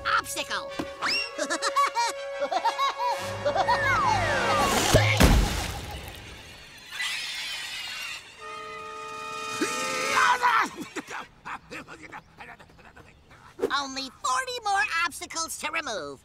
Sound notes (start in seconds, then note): 1.0 Woody laughing in distance; 1.1 laughs; 6.8 ants chittering; 9.5 jabbering